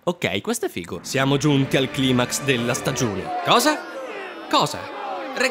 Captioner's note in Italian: Il finto pubblico buuisce